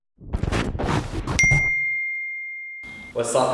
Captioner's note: popping and static